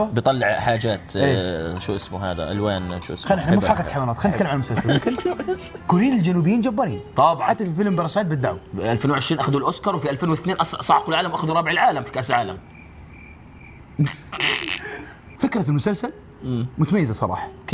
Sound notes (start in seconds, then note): 9.7 foreboding music playing; 12.7 crickets chirping; 14.0 chuckles